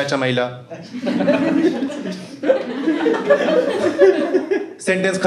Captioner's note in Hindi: हँसना